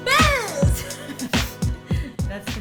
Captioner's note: laughing